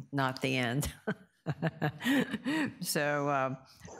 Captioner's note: laughs